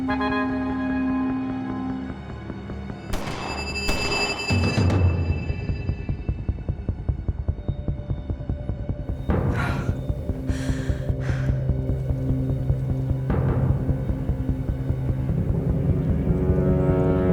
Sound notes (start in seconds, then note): 3.1 distant gunshots; 9.2 breathing heavily